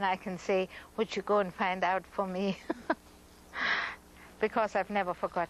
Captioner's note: laughs